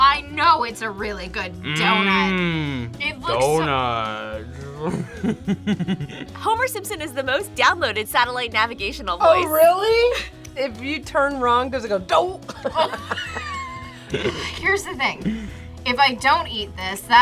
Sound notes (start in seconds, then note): 4.7 laughs; 12.4 both laugh